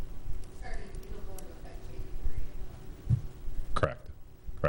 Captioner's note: faintly speaking